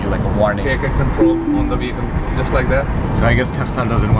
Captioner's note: warning beep